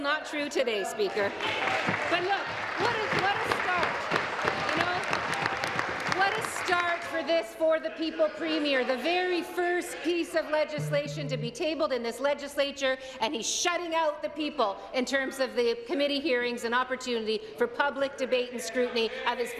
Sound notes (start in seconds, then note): 4.8 applause